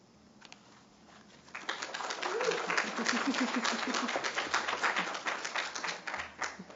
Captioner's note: applause